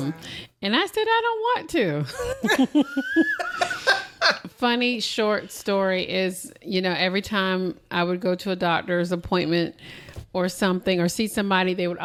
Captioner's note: laughter